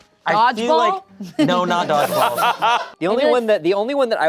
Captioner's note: laughing